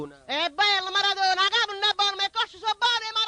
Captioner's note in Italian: napoli's dialect